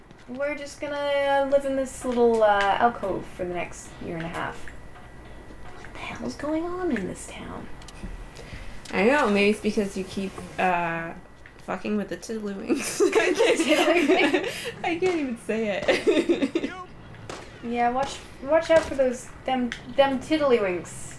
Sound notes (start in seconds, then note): 12.7 laughter; 15.6 laughing